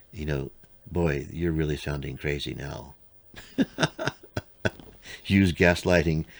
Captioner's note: laughs